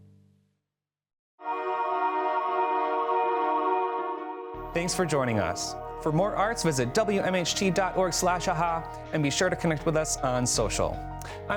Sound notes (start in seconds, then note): 1.4 graphics chiming